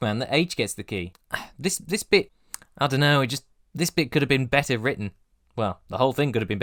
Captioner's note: sigh